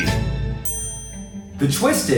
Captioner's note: ding